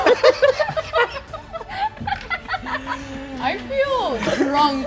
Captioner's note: cast laughing